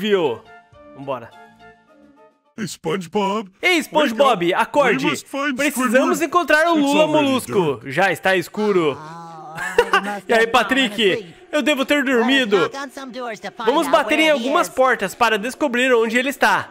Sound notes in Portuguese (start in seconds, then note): 9.5 risos